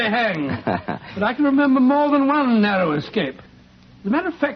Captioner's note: Bell laughs